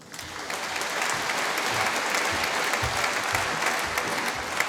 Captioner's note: applause